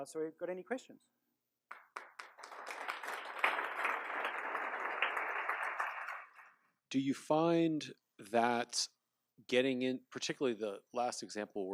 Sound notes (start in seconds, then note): 1.6 applause